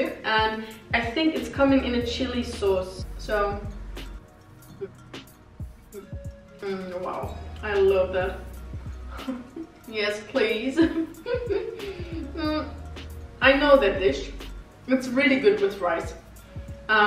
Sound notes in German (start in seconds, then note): 9.1 laughs